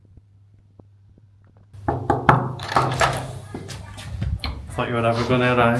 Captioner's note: knocking